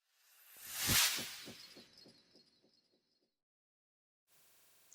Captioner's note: sound effect